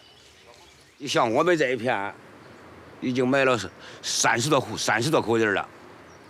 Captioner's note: hablan un idioma extranjero